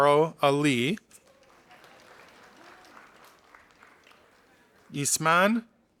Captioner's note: audience applauding